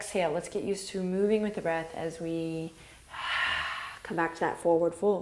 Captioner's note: exhales